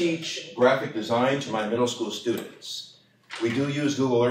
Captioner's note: none